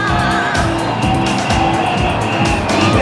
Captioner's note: whistling